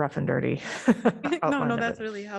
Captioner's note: laughter